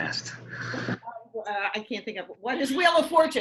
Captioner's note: conferring; quietly